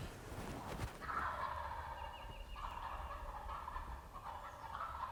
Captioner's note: turkeys gobbling